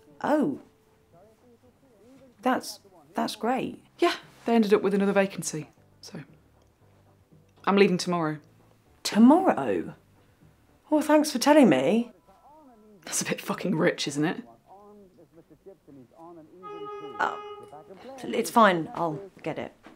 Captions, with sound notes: Oh! That's ... That's great. They ended up with another vacancy, so. I'm leaving tomorrow. Tomorrow?! Well thanks for telling me. That's a bit fucking rich, isn't it? [Car horn] It's fine, I'll get it.